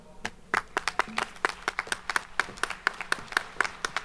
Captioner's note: audience applauding